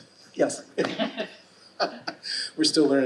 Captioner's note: laughing